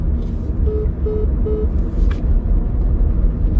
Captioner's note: call ends